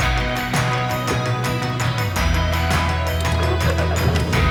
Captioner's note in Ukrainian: оплески